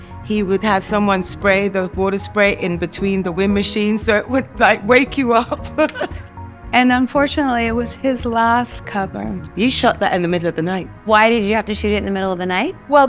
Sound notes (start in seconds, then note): 5.3 Naomi laughs